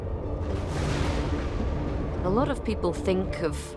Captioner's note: thunder crashes